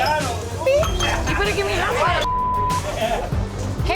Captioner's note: beep